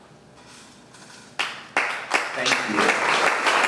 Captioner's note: audience clapping